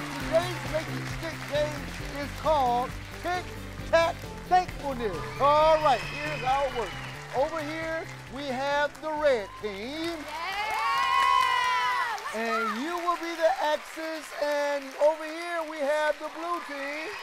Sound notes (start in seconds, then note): 10.4 claps